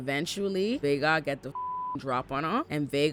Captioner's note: beep